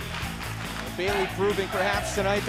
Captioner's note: fans chanting